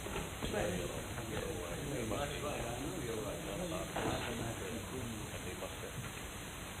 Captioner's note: people chattering